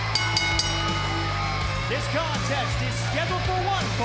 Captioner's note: bell ringing